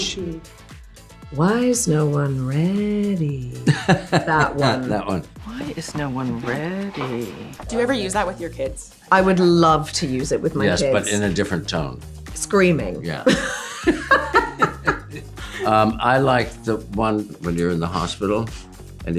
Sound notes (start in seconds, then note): 3.6 laughs; 13.2 laughter